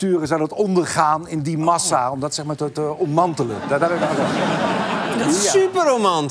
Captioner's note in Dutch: gelach